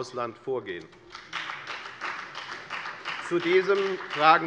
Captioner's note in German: Beifall bei der FDP